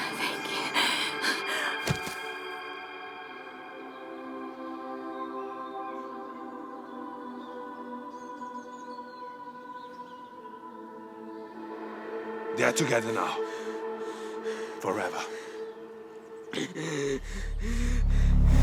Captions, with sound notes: - Thank you. (gentle music) (birds chirping) (gentle music) - They're together now, forever. (dramatic music)